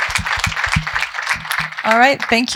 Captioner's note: applause